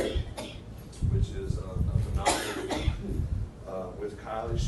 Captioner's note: coughing drowns out speaker